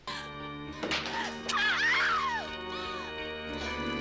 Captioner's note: screaming